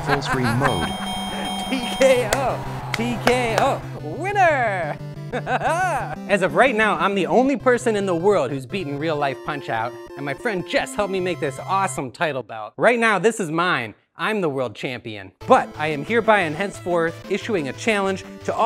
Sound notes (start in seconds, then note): 0.0 laughing; 5.3 laughs